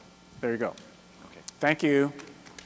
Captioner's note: voiceover